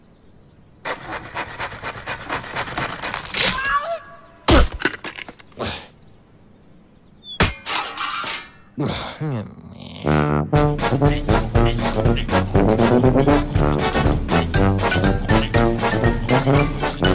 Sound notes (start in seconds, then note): 0.8 sawing; 4.6 thud